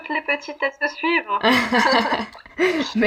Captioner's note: laughs